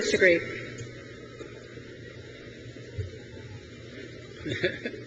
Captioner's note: trustee laughs